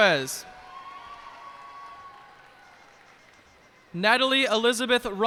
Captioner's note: cheers and applause